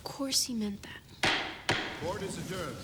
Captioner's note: gavel bangs